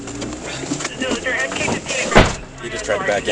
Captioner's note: radio chatter